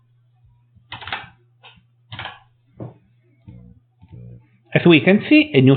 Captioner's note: keyboard typing